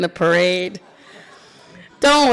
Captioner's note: attendees laughing